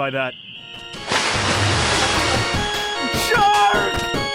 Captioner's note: shark jumps out